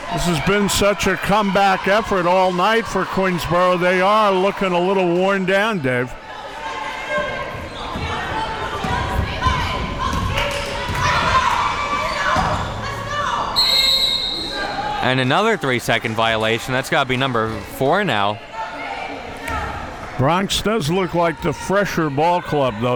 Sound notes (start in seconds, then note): 13.5 whistle blowing